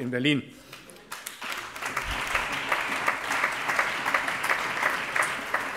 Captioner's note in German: Allgemeiner Beifall